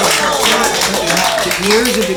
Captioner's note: applause